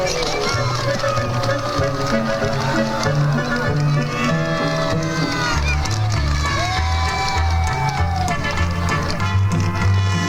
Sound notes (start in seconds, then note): 0.1 gentle upbeat music; 3.7 crowd cheering; 7.0 gentle upbeat music